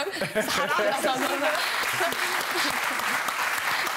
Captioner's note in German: Applaus